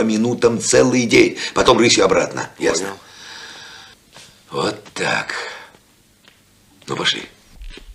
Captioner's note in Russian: тяжело вздыхает